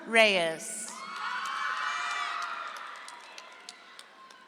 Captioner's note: audience applauds